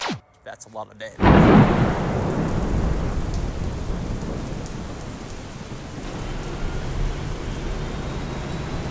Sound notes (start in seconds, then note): 1.2 thunder